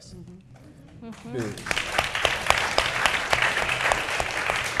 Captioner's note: audience clapping